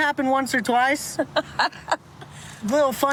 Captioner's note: laughs